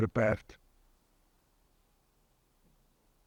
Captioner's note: pauses 6 seconds